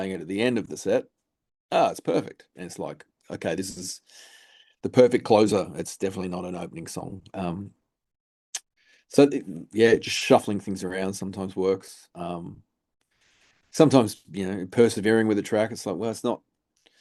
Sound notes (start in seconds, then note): 8.5 lip smack